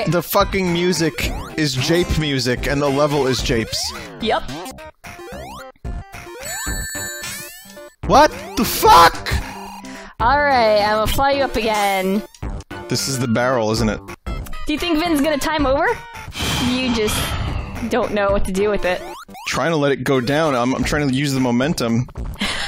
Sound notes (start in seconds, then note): 16.3 exhales